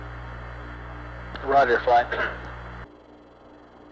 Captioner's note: mission Control Audio